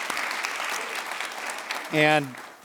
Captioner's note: applause